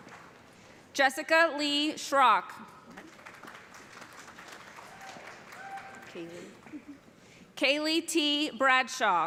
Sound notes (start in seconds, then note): 2.8 applause